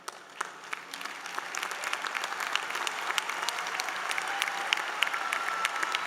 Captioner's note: applause